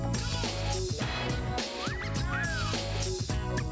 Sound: wolf whistle

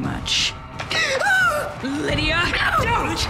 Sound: Lydia yelps

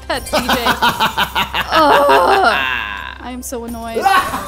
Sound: laughs; groans; laughs

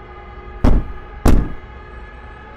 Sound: knock, knock

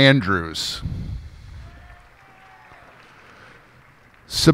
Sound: cheers and applause

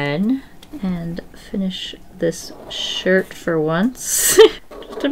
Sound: short laugh

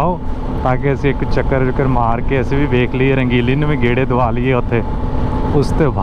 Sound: motorcycle

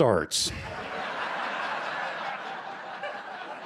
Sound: laughter

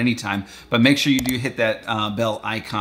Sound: mouse clicking

